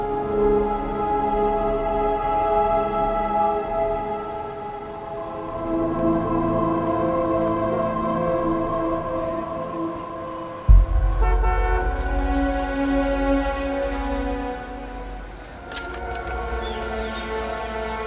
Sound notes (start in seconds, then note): 10.7 horns honking; 14.6 soft dramatic music